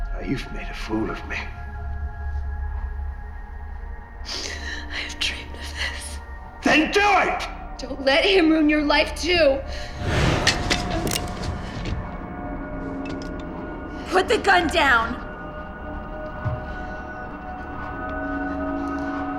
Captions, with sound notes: - Now you've made a fool of me. - (sniffles) I've dreamed of this. - Then do it! - Don't let him ruin your life too. (gun clicks) Put the gun down. (suspenseful music)